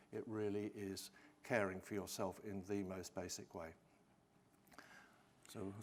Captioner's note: none